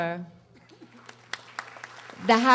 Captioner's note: audience applauding